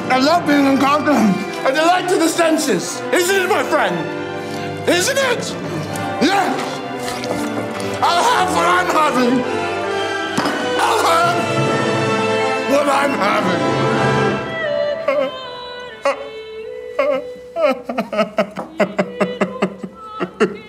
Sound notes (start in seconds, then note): 15.1 Jordan crying; 16.8 somber music